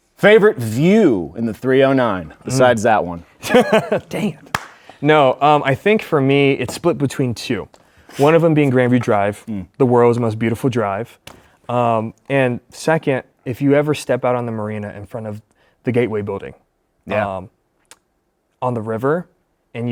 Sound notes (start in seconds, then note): 3.4 laughs; 4.5 claps